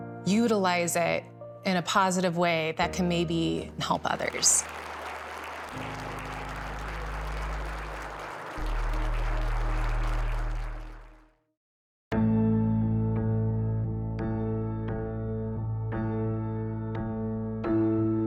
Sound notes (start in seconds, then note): 4.2 applause